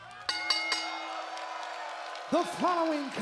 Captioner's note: bell dinging